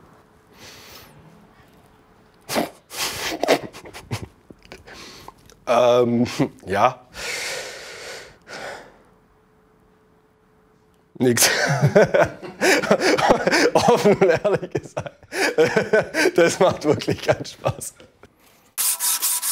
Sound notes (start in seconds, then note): 7.1 he takes a deep breath and sighs; 11.4 everyone laughs